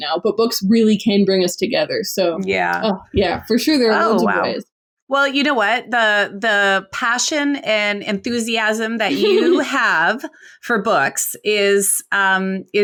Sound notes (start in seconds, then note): 9.0 laughs